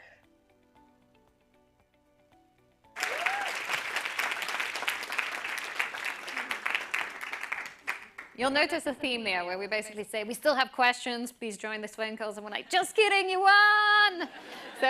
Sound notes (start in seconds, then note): 2.9 applause